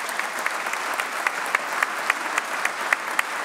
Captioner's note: applause